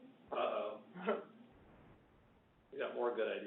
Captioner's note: laughs